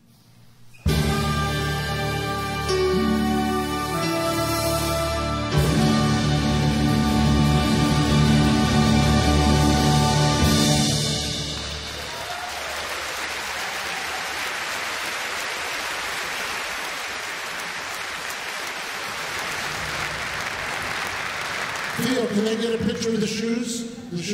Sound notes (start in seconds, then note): 0.2 orchestral classical music; 10.9 audience applauds